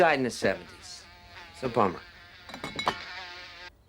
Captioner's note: fly buzzing